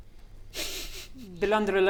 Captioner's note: smug snickering